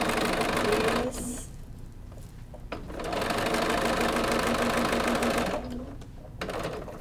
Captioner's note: sewing machine rumbling